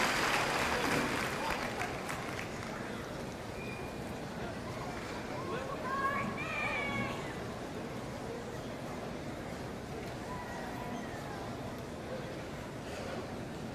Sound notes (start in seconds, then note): 5.9 audience shouting congratulations; 8.0 audience chattering